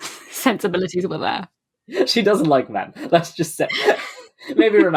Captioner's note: laughing